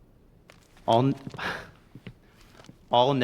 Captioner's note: chuckles